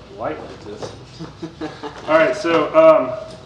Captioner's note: laughs